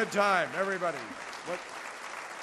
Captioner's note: applause